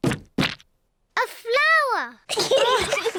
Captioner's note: all laugh; giggles